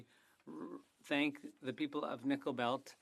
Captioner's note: speaking French